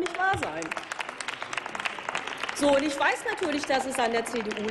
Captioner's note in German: Applaus